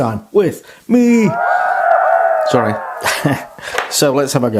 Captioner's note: cheerin